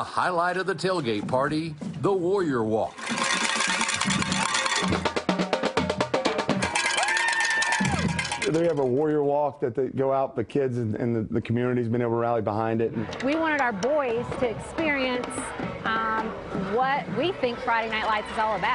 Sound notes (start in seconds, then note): 2.9 cowbells ringing; 7.1 drums beating